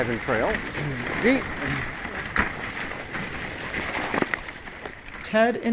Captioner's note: sledding noise